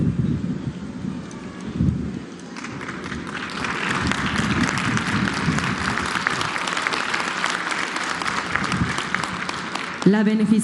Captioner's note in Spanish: aplausos